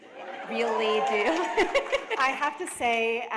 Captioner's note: chuckle